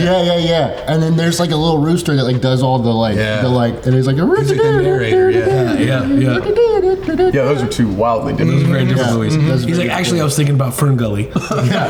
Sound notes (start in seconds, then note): 6.2 hums song